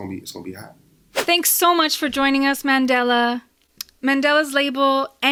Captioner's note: whoosh